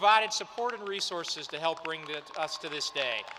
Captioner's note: applause